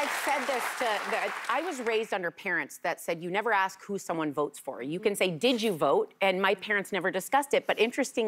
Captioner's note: cheers and applause